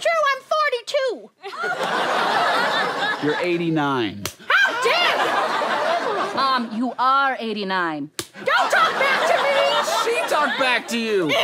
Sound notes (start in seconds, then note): 4.2 slap; 8.2 slap